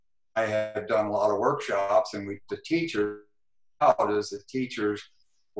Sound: glitch

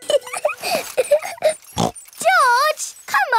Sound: laughs and snorts

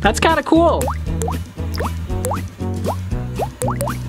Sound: dripping

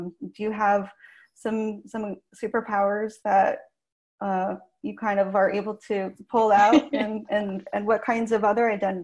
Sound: laughs

